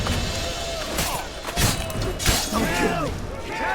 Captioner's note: groan